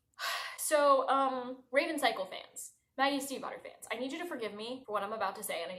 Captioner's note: sigh